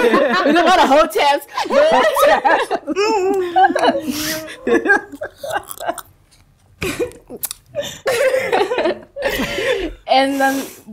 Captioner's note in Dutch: gelach